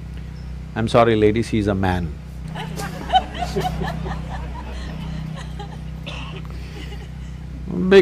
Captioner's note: laughter; 笑聲